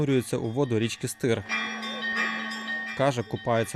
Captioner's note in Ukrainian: Звук дзвонів